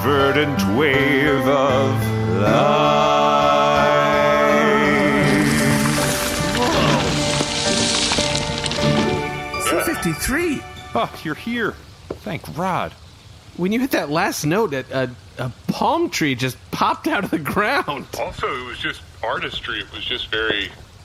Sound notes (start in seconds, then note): 4.5 harmonizing; 10.3 happily